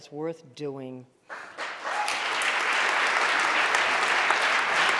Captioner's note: audience applauding